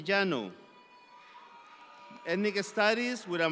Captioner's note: audience applauds